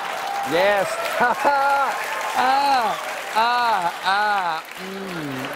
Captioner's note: cheers and applause